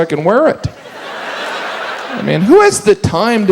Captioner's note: audience laughs